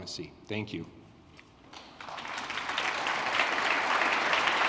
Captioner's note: applause